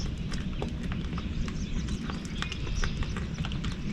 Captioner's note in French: Sons ambiants des oiseaux et du bord